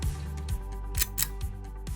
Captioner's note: click